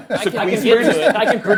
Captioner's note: laughs